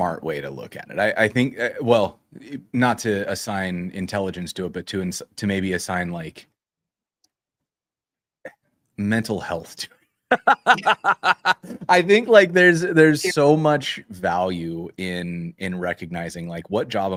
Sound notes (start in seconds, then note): 10.3 laughter